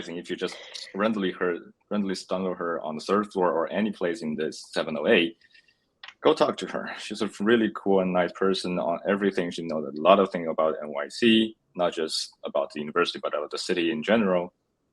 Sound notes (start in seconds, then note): none